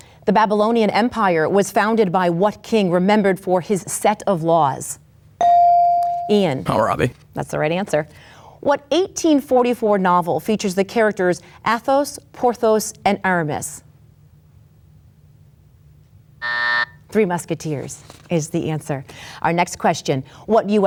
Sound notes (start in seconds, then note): 5.4 bell dings; 16.4 buzzer buzzes